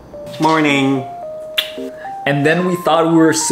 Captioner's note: kiss